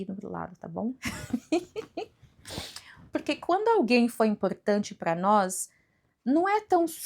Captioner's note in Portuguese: risadas